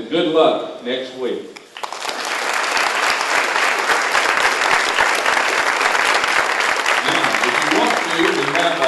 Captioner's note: applause